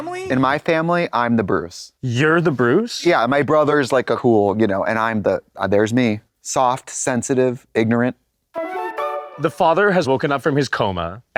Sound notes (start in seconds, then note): 8.6 bright chime